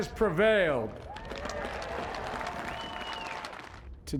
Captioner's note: cheering and applause